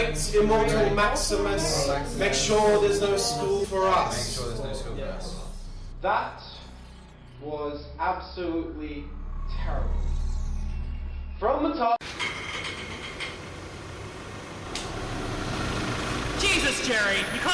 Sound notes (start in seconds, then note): 12.0 metal creaking; 12.0 car engine